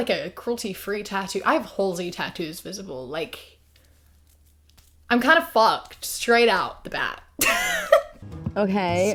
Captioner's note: laughs